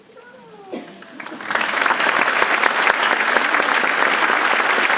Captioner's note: audience applauding